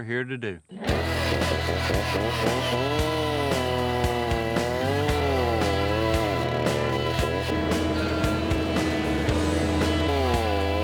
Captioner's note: chainsaw grinding